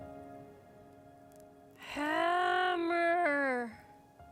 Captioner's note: speaking gibberish